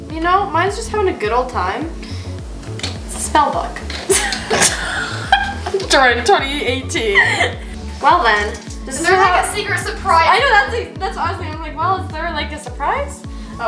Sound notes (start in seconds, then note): 4.0 laughs; 6.9 giggles